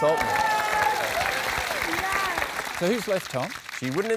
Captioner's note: cheering, applause